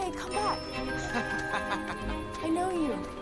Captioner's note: man laughing